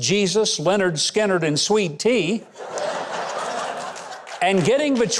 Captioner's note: audience laughs